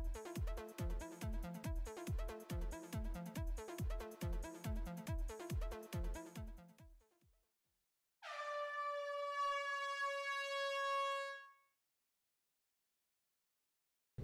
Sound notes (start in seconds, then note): 8.3 studio siren blaring